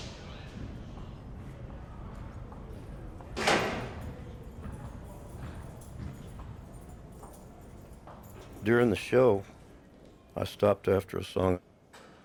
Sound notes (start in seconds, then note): 3.4 door opens